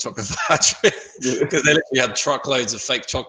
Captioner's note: laughs